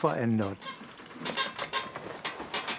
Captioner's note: creaking